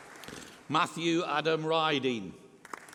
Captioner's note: applause